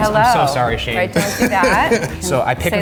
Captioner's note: laughing